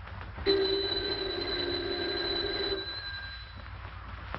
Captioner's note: telephone rings